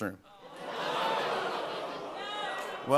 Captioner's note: audience groans